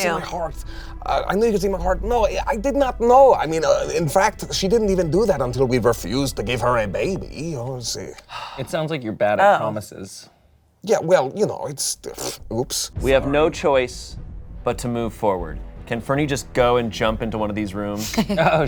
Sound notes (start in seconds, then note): 12.0 blows raspberry